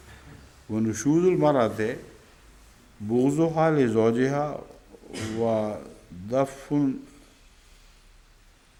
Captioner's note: Arabic